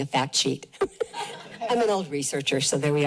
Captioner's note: laughs